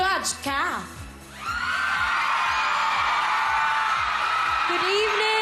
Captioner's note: audience screaming